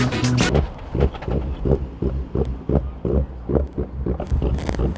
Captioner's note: car engine sputters